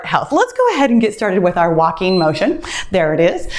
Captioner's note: timer beeps